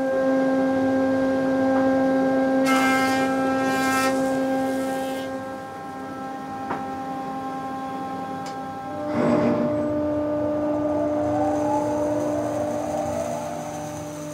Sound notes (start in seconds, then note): 10.4 machine noises